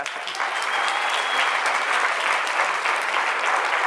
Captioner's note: applause